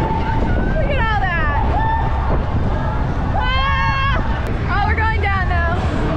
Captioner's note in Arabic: صراخ